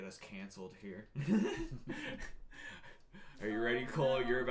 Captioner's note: laughing